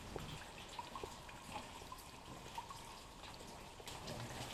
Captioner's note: water trickling